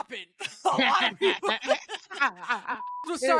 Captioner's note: laughs